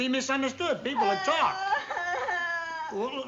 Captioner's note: crying